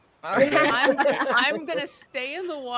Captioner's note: people laughing